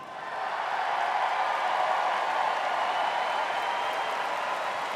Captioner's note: students cheering